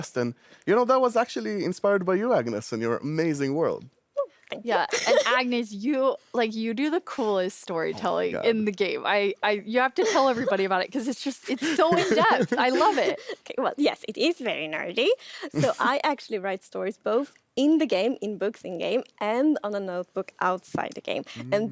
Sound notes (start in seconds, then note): 4.8 laughs; 11.5 laughing